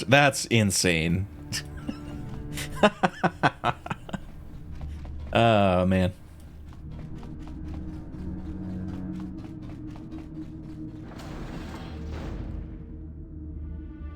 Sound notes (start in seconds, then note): 0.9 laughs